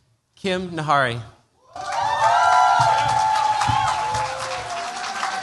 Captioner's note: cheers, applause